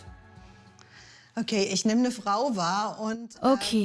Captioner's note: speaks in German